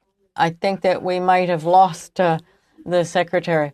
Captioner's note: speaking French